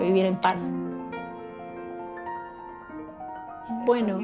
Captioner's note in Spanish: Música de piano; Golpe de taza de café